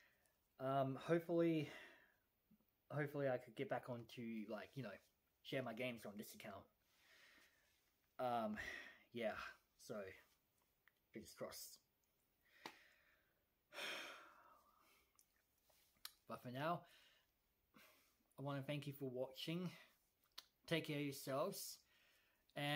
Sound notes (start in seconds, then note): 13.7 sighs